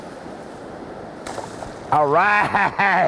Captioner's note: splash